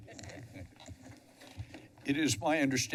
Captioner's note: microphone squeaks